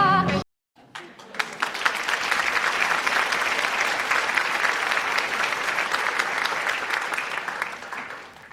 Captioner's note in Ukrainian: оплески